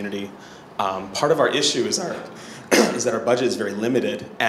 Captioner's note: coughs